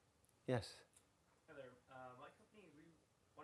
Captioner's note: voiceover